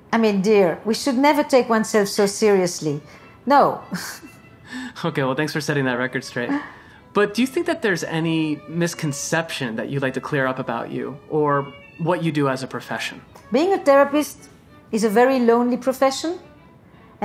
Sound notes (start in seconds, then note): 3.9 laughing weakly